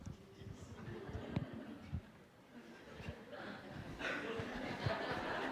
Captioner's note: laughter